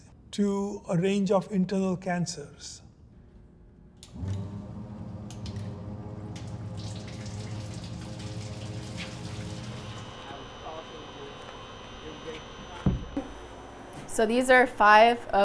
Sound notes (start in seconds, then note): 4.5 machine humming; 6.1 liquid draining